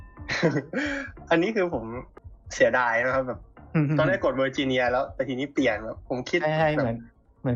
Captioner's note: laughs